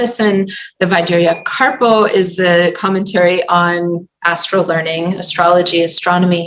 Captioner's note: non-english